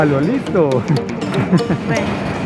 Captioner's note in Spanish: risas